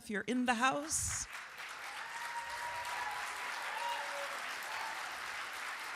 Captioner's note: audience cheers and applauds